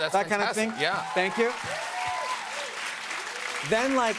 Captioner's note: cheers and applause